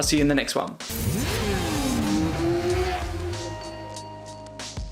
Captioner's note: motorbike engine roaring; soft music